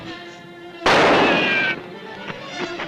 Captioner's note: gunshot